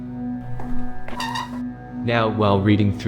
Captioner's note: chair Moving; footsteps